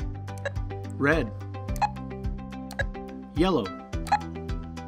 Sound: beep

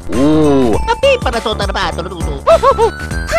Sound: italian gibberish

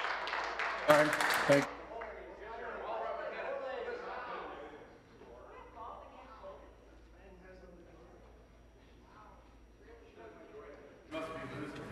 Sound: some Applause

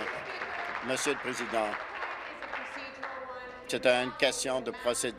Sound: applause

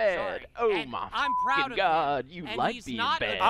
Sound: beep

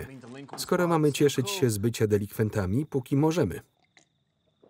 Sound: gulps

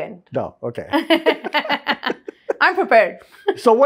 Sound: laughing

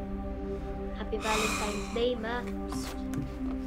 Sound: heavy sigh

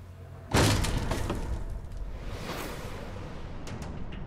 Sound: suspenseful music; door thuds

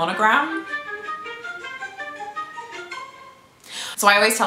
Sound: phone alarm

